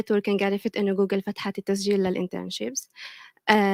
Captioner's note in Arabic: لغة أجنبية; لغة أجنبية